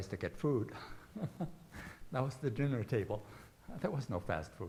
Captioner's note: chuckling